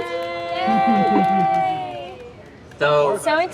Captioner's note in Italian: applausi e versi di gioia